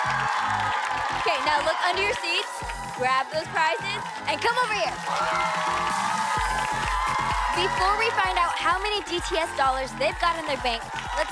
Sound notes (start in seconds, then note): 5.0 cheering